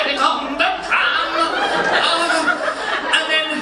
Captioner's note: resumes normal voice